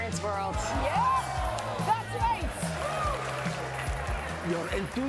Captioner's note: audience cheering